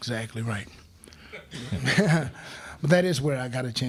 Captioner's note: crowd laughing